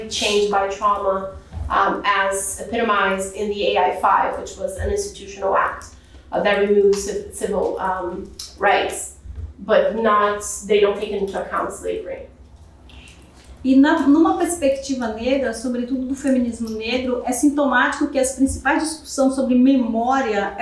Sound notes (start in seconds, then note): 14.2 speaking portuguese